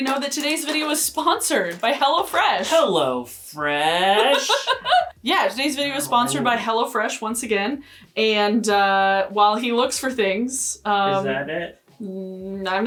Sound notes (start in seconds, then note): 4.2 laughing